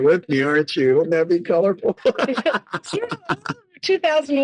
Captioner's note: laughing